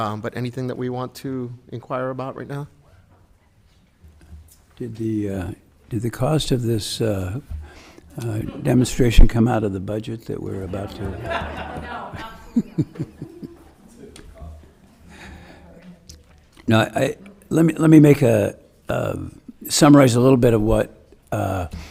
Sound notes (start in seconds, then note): 10.5 audience laughing